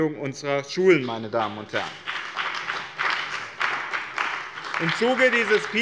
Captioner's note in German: Beifall bei der CDU und dem BÜNDNIS 90/DIE GRÜNEN